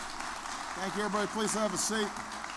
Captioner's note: applause